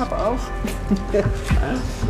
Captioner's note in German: Lachen